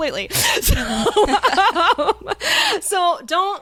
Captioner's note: both laughing